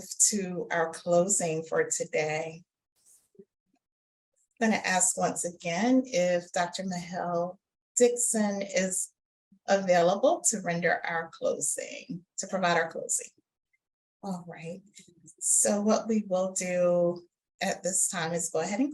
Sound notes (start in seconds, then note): none